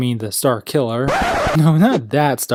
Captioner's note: record scratch